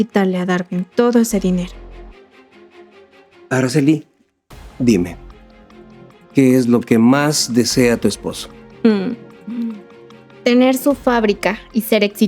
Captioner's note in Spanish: carraspeo